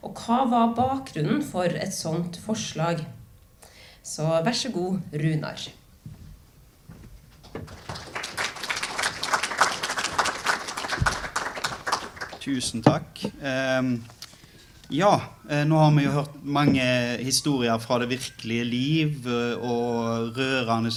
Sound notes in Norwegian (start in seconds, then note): 7.6 Applaus